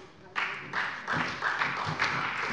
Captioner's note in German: Beifall bei der SPD